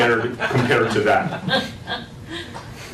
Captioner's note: laugh